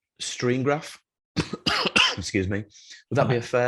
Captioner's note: coughs